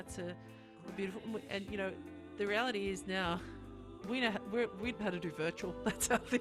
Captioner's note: laughs